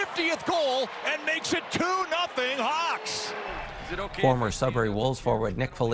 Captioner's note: applause